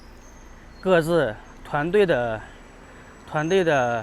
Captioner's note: 英语; 英语; 英语